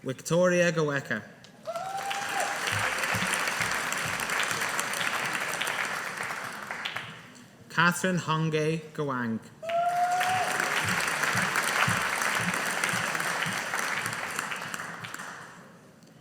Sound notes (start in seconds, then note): 1.6 audience applauding; 9.6 audience applauding